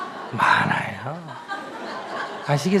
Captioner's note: audience Laughter